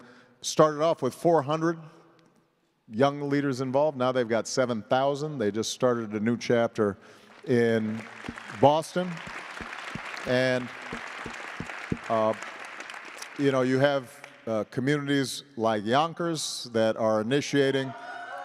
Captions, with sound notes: school right across from where we're building our library, a program called B.A.M., becoming a man, outstanding program, started off with 400 young leaders involved. Now they've got 7,000. They just started a new chapter in Boston. [ APPLAUSE ]